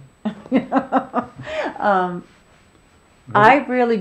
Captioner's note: laughing